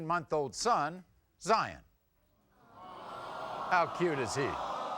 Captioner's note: audience vocalizing